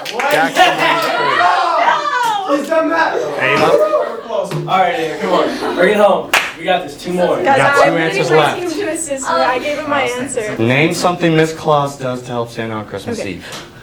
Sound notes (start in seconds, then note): 6.3 clap